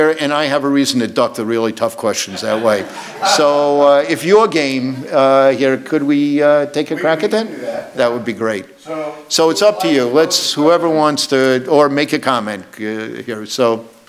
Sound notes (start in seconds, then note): 2.2 audience laughs